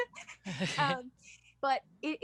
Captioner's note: laughter